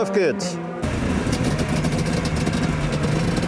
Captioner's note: loud engine roar